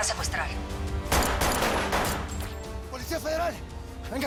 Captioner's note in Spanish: Disparos